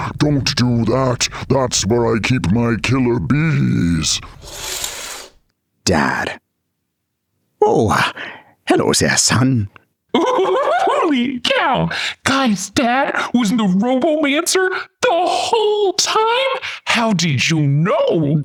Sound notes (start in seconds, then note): 4.4 curtain pulls aside